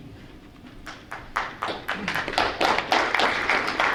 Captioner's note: applause